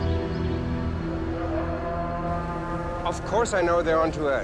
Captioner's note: dramatic music; chanting in a foreign language